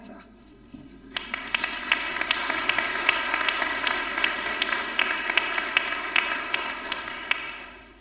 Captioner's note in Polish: oklaski